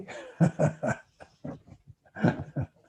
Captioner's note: laughs